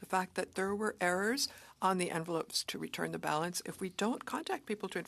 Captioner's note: speaking French